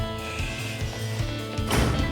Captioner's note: shushing